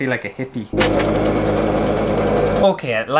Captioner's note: sewing Machine